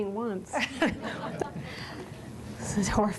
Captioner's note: laughter